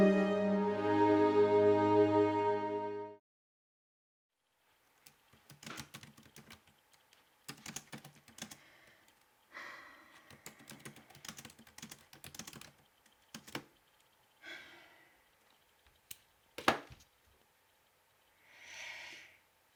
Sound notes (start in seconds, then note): 5.4 loud typing